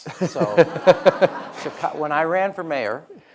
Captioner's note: audience laughing